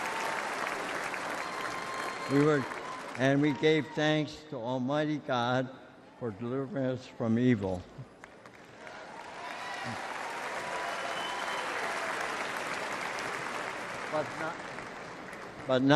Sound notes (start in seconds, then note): 1.3 applause